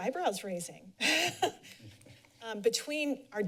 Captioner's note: laughter